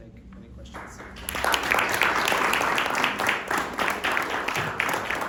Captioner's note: applause